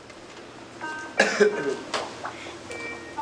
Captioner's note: phone chimes